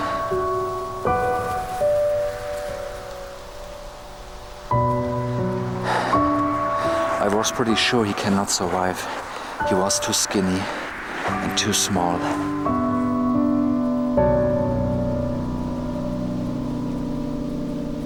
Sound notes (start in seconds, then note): 0.2 sad music; 5.1 sighs